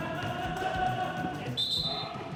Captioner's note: whistle